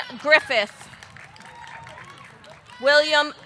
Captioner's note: audience cheering; audience clapping